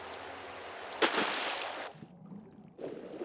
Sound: splash

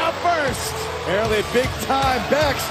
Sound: cheers and applause

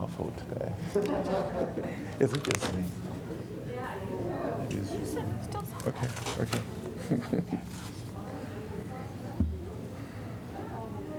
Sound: laughter

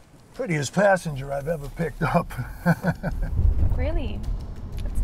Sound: laughs

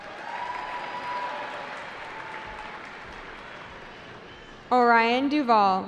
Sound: cheering

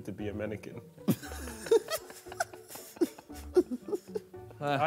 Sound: men laugh

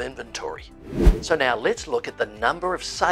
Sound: air whooshing

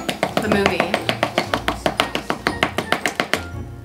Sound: banging

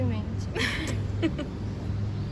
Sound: laughs

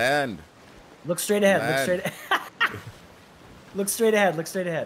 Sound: laugh

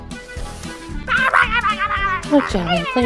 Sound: making rabid animal noises

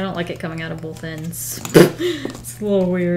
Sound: laughs

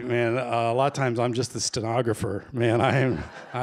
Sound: laughter

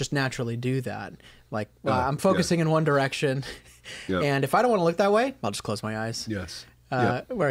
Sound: chuckle

